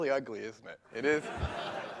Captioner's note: laughter